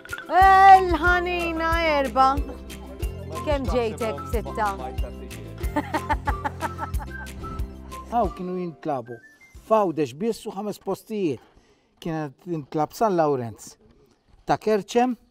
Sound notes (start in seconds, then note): 5.7 laughs